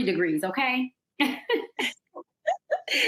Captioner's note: laughter